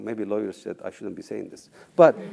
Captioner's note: laugh